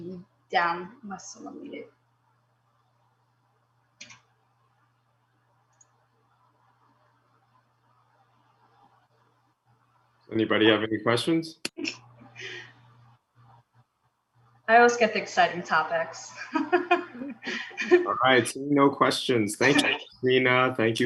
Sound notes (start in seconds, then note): 16.3 laughs